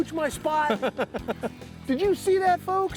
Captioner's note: laughing